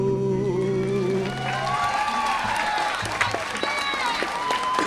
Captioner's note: audience applauding